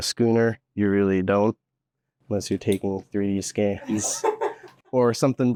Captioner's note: background laughter